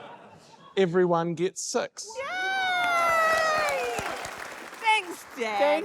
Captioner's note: cheers, applause